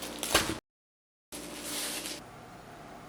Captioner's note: rice ball wrapper tears